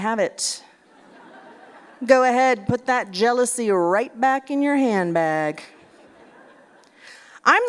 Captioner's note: laughter